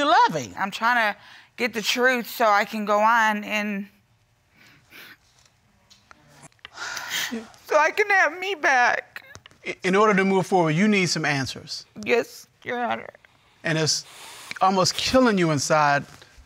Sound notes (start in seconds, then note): 6.4 sobbing